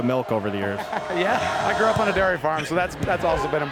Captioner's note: laughing